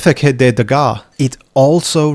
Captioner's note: in french